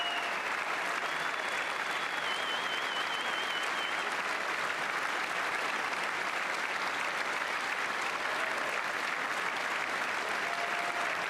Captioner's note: applause